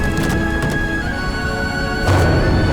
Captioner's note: stomping